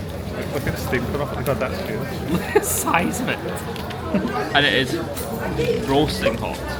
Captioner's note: giggles